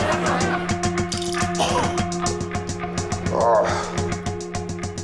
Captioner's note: coughs and groans